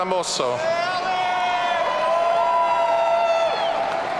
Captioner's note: audience cheering